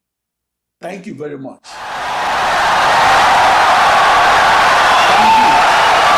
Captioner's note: audience cheering, applauding for 17 seconds